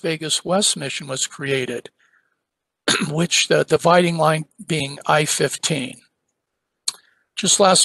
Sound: cough

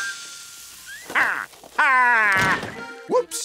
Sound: laughing

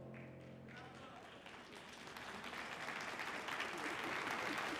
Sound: audience applauding

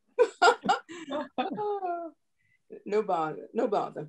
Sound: laughter

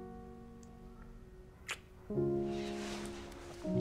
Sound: kisses

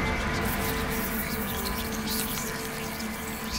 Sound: insects buzzing

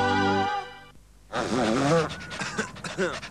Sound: sniffling

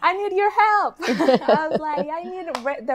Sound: laughs

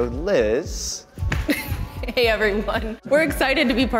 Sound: laughs

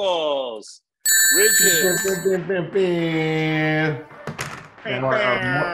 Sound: alert tone tinging

